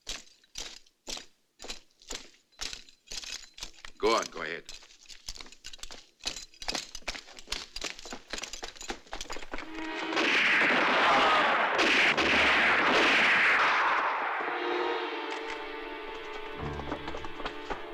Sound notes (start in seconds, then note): 10.0 gunfire